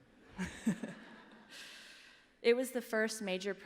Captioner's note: laughter